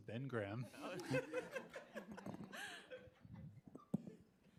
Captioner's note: crowd laughing